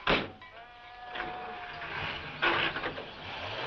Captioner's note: engine starts